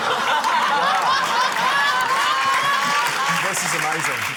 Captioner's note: laughter, applause